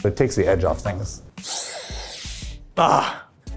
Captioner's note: sniffs